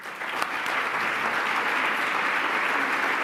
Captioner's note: applause